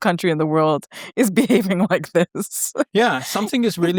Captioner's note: chuckles